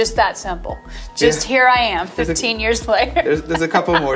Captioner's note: laughing